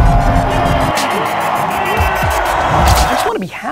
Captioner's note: dramatic music; crowd cheering